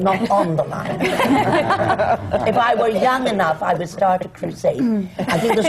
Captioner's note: laughter